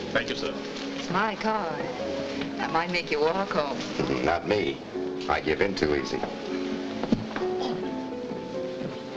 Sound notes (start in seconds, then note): 4.3 laughs